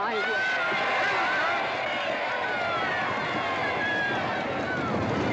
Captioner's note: crowd cheering; hooves pounding